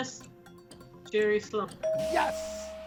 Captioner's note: bell chimes